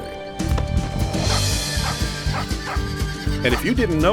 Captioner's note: lively music; horse neighs